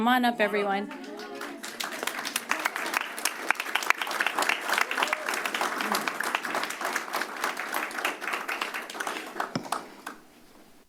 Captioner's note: applause